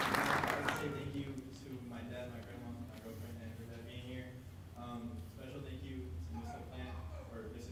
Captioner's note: applause